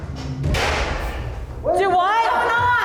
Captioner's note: gun fires